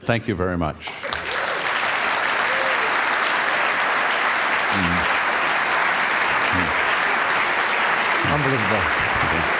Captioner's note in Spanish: Aplausos